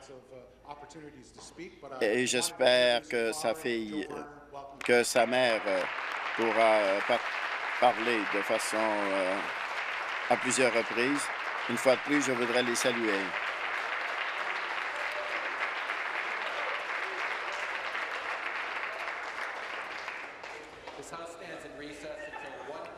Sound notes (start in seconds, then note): 8.3 applause